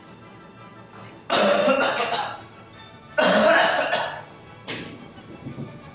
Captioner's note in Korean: 기침